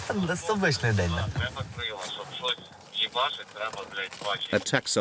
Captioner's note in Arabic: الصوت المنطوق الأوكراني